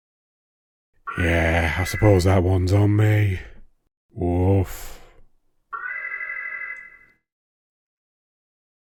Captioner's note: alarm